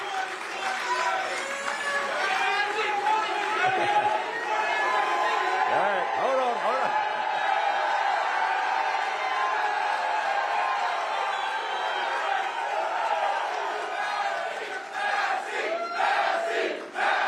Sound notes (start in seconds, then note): 4.8 applause; 11.0 cheers and applause